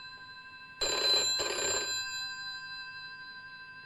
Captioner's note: phone rings